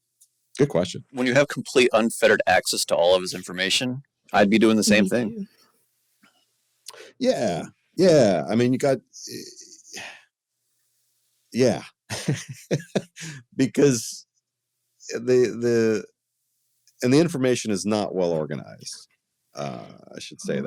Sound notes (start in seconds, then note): 12.1 laughing